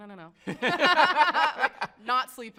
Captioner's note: both laughing